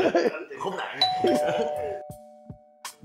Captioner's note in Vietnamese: Cười